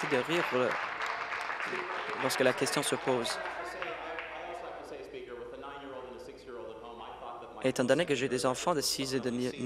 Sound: applause

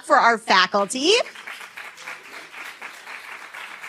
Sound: applause

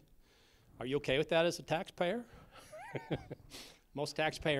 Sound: laughter

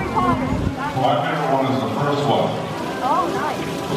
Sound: fountain

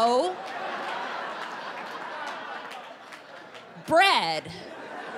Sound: laughter

